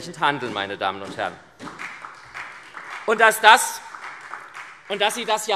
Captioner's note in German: Beifall SPD und vereinzelt Freie Demokraten